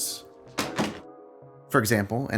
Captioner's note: remote clatters